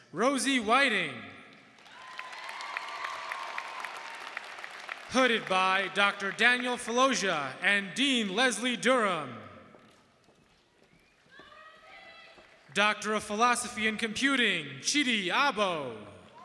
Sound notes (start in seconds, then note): 1.7 audience cheering and applauding; 11.6 audience member shouting